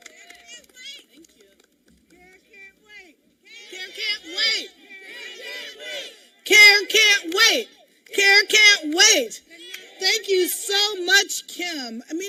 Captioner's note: applause